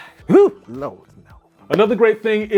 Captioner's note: exclaims disgust